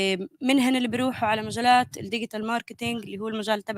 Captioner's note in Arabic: لغة أجنبية